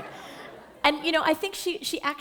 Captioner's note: laughter